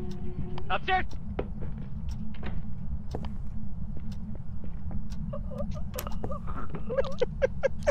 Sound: flashlight clatters to the ground, choking sounds; laughs

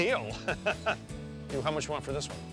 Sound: laughing

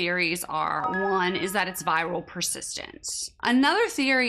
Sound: light beep

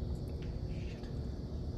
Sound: whispers

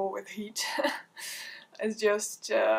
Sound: chuckles

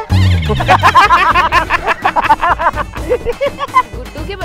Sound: laughing

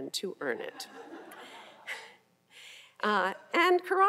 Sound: audience laughing

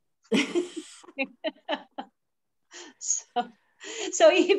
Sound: laugh

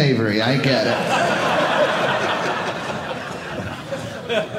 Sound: audience laughing

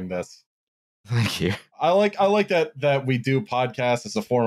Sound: laughing

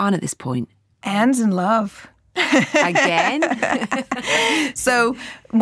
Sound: laughs

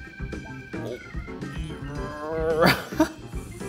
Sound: piano music; grunting

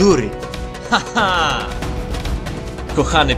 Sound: gleeful shout

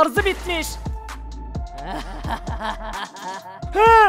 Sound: laughter

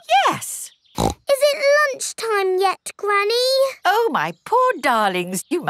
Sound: snorts

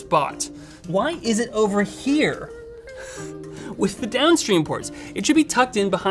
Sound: wheezes

